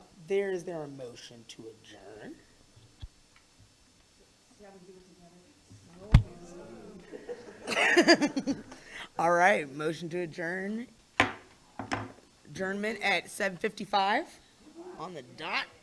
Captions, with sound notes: there is there a motion to adjourn? (board members laugh) - All right, motion to adjourn. Adjournment at 7:55 on the dot.